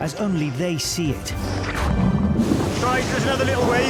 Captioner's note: water burbling